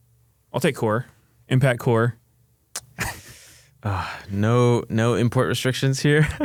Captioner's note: laughs; laughs